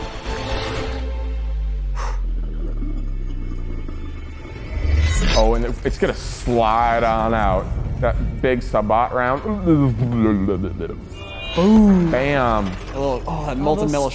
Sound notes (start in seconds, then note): 9.3 mimicking slo-mo tank bullet